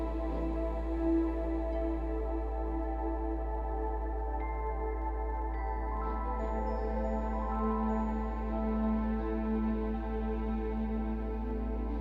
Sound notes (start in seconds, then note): none